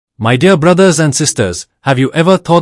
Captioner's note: hindi/Urdu